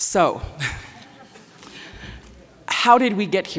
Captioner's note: scattered laughter